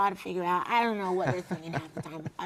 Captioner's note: laugh